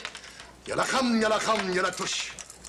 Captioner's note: speaking fake Arabic